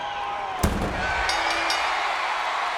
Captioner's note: audience cheers; lid thuds; bell rings